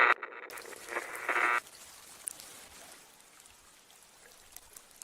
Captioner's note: static audio